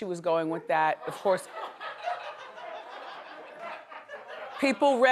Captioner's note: audience laughter